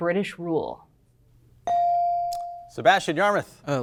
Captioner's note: buzzer chimes